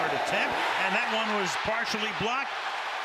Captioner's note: cheering